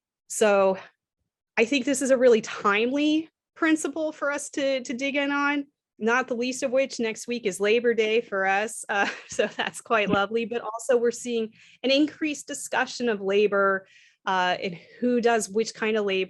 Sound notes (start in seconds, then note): 9.0 laughter